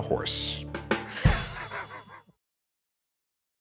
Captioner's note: laughs